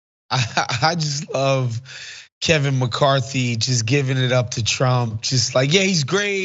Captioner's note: laugh